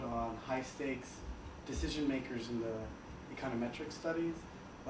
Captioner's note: none